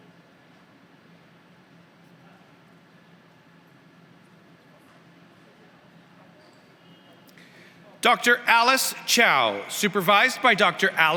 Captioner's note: applause